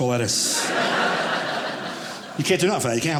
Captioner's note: audience laughing